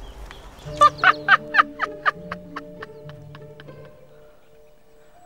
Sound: Jack continues laughing

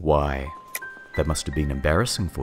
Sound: lip smack noise

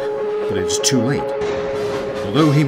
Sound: metal clattering

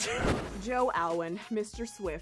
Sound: laughs

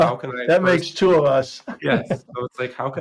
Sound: laughs

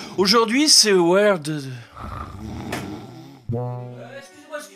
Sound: snoring

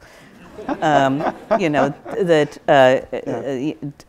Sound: audience laughs

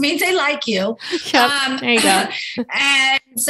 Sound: laughs

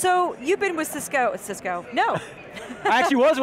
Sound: laughs

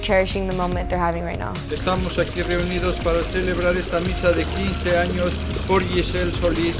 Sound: speaks in foreign language

